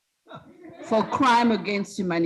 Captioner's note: students laughing